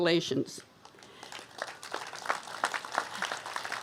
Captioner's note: applause